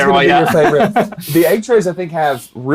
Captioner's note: laughing